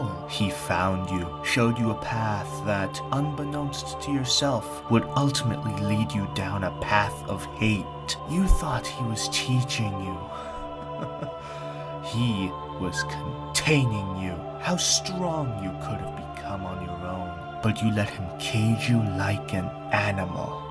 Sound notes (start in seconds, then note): 9.7 chuckles